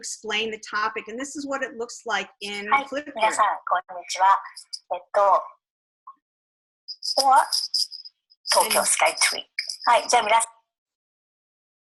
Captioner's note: japanese words